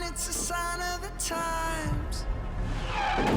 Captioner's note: tires screech